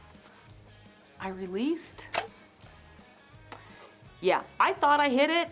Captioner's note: bow thumping